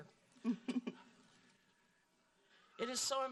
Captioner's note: laughing